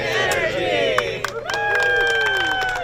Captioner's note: cheering; applause